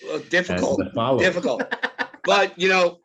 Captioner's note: laughs